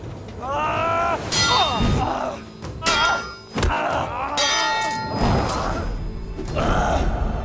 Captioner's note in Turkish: Dövüş sesleri